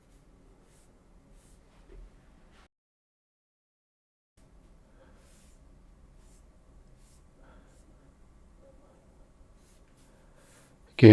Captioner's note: silence